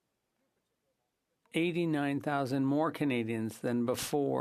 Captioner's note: speaking French